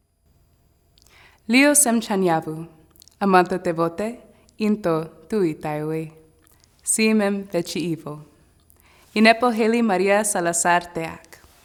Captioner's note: speaking non-english